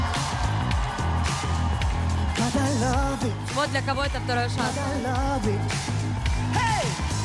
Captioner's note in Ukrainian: оплески; оплески